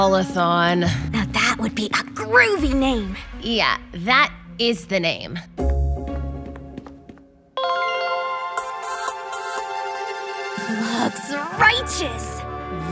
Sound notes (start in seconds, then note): 7.8 cell phone chimes